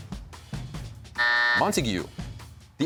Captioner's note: buzzer sounds